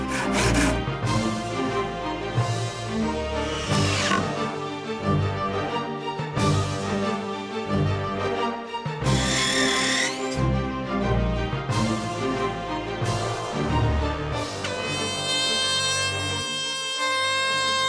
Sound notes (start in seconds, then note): 0.0 trowel scraping; 0.0 wood sawing; 3.4 drill whirring; 9.1 grinder screeching; 15.2 horn blasting